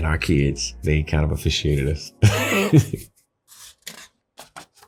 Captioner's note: laughing